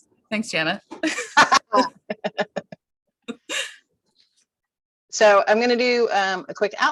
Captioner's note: laughing